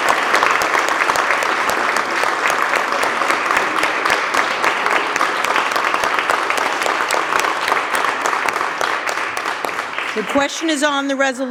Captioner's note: applause